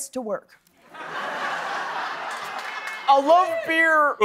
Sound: laughter

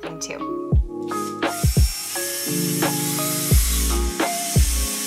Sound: drill buzzing

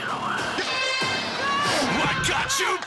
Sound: horn blows

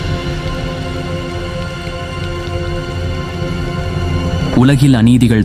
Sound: clap

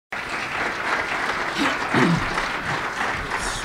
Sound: applause

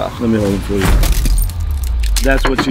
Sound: cracking sound

